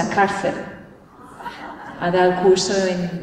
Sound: laughter

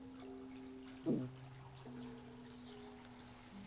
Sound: <i> gulp</i>

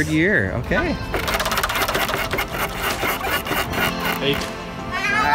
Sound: spinner clicks

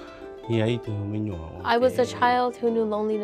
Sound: speaking in Hmong

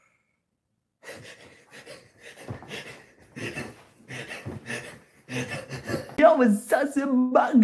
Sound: insert David Dobrik laughing

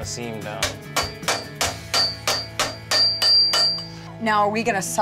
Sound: hammering

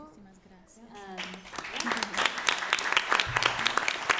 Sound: applause

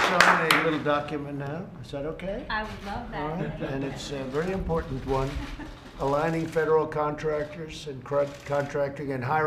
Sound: applause

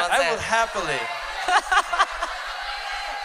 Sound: laughter

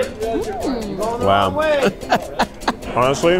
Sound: laughs

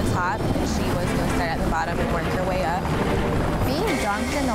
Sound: helicopter rotors thumping

